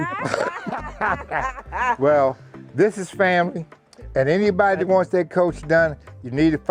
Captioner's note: laughs